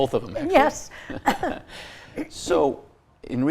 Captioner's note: both chuckle